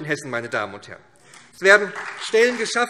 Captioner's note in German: Beifall SPD